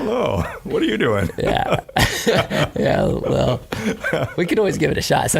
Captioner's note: laughing